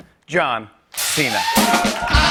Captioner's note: cheers and applause